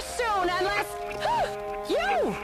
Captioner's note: gasps